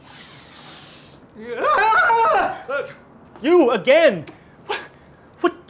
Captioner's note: loud sniffing; screams